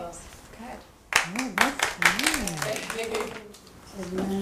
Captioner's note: applause